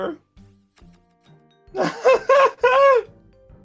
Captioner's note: tired laughter